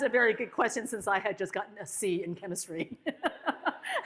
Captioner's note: laughs